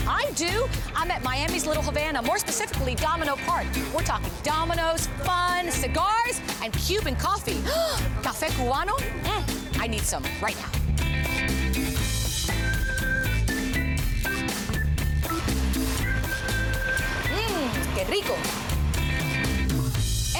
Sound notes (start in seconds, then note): 5.2 gasp!